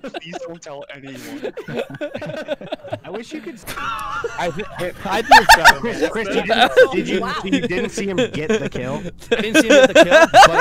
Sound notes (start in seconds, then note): 0.2 laughter